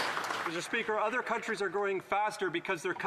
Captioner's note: some Applause